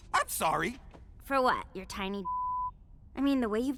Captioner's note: beep